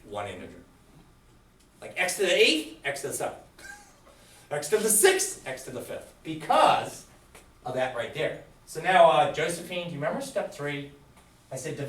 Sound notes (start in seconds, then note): 3.6 chuckles